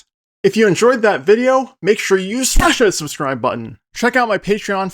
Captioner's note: smash